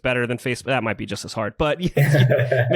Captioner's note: laughs